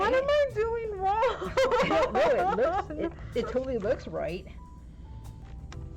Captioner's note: laughing/crying